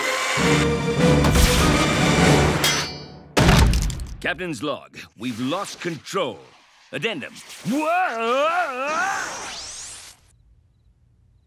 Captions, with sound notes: (suspenseful music) (machine thuds) - Captain's log, we've lost control. Addendum, whoa!